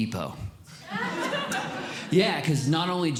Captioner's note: audience Laughing